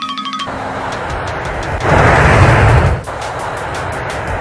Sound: xylophone tinkling; jets flying

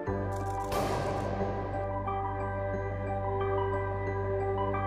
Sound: electricity zaps

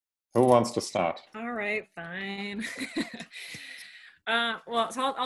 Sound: chuckles

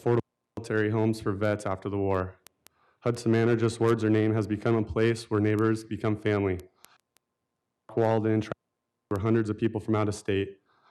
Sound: audio cutting in and out

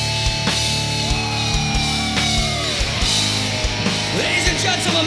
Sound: heavy rock music; crowd cheering

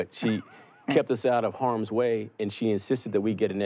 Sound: laughs

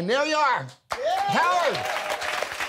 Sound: cheering

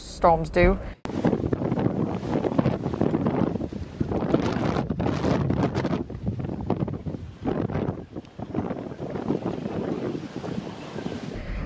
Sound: sounds of Heavy Wind and Rain

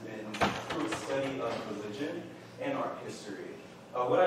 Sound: door slam

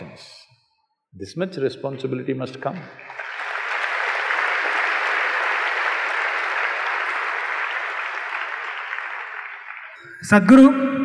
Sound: applause

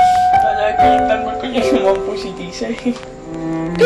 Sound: sobbing

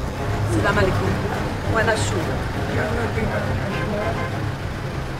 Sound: Arabic spoken audio

